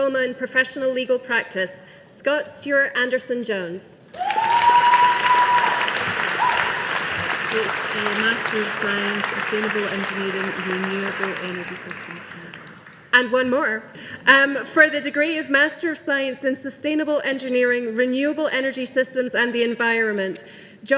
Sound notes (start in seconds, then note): 4.1 audience applauding